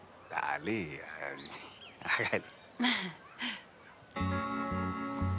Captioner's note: laughter